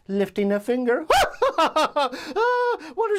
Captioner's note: laughs